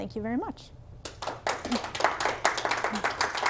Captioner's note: applause